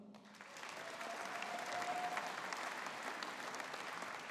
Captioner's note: audience applauding